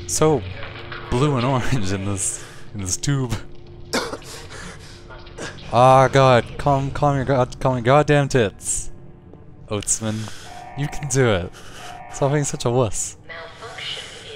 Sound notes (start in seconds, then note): 3.9 coughing